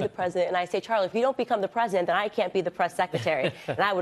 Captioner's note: laughter